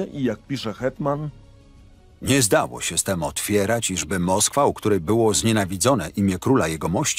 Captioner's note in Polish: Lektor